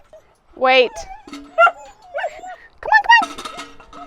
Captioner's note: dog barks